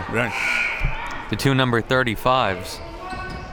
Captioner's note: buzzer blares